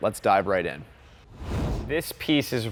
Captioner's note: air whooshing